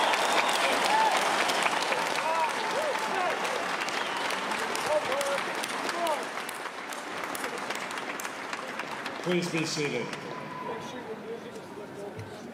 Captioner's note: cheers and applause